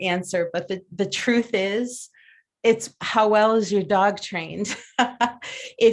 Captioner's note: laughs